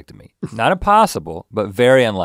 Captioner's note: chuckles